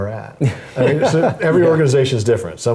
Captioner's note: laugh